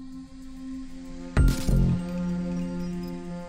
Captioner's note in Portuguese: tiro